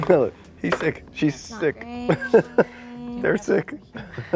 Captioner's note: laughs